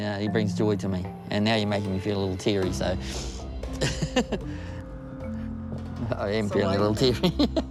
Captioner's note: laughs